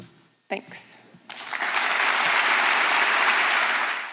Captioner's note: applause